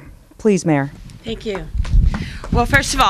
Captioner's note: applause